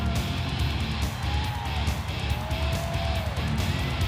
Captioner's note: crowd cheers